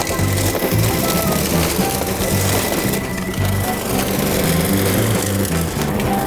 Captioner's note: drill whirring